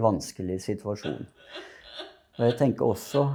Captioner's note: crying